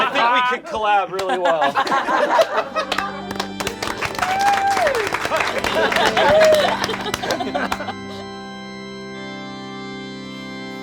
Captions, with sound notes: I think we could collab really well. (all laugh) (all applaud) (somber organ music)